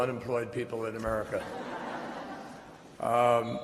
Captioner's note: chuckles